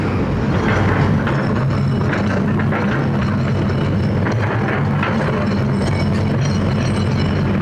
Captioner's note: traffic Noise